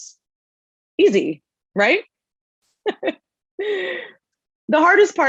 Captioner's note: laughing